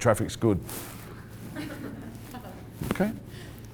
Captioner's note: laughing